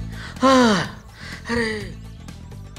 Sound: panting

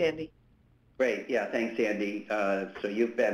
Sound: voiceover

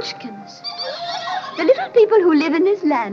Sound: Munchkins giggling

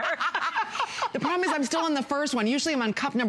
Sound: laughter

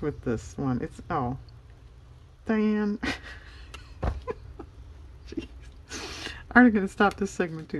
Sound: laughs

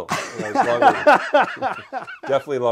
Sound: both laugh

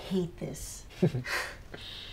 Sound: chuckles

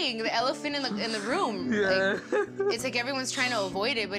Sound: laughs

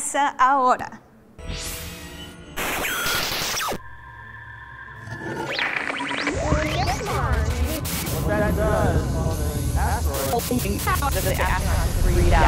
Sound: sound Effects

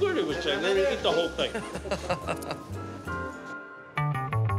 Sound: laughs

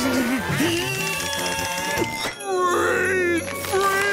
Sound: grunting

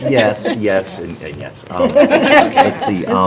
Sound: laughter

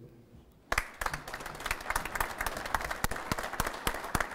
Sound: applause

